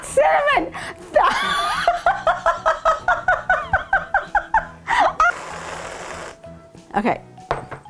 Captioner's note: laughing